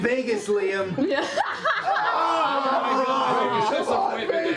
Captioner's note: groaning